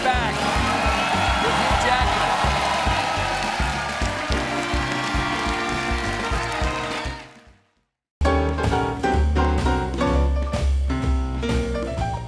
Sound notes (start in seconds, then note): 2.7 cheers and applause